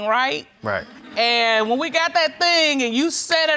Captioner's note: audience chuckles